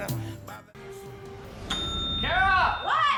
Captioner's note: bell ringing